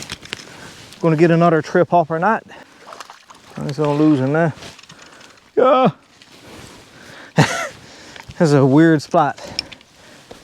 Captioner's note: laugh